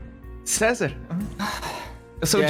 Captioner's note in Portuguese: Suspiro